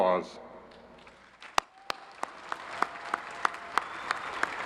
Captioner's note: crowd applauds